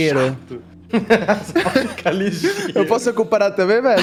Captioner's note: laughs